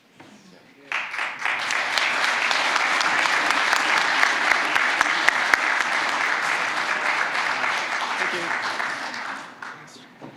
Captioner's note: applause